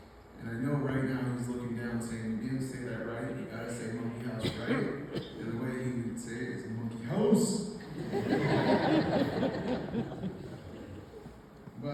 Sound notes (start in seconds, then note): 7.8 laughter